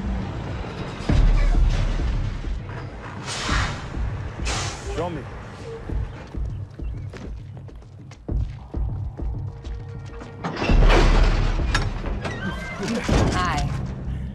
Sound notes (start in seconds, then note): 2.6 truck braking; 10.0 doors creaking; 12.1 guns cocking